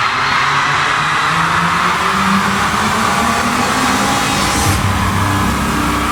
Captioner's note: pulsating drone noise